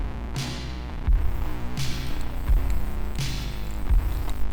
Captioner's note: air whooshes